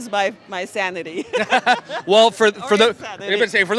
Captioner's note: laughs